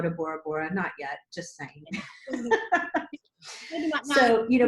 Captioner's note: laughs